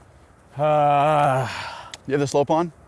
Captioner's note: groans